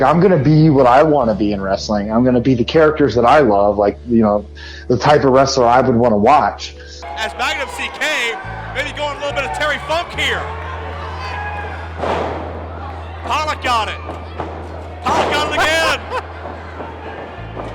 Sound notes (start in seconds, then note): 12.1 ladder smashing